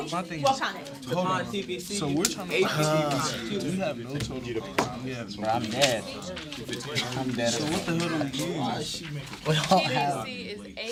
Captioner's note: students murmur